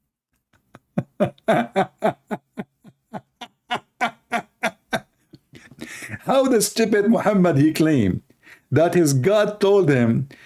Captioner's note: Ketawa